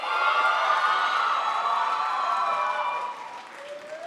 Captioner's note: crowd applauds